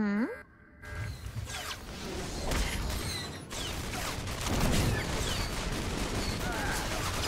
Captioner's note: gunshots